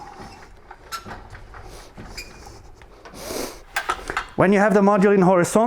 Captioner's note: metal squeaking